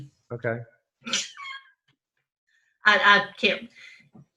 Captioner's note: laughs